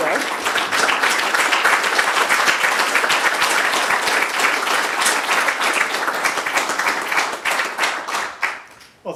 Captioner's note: applause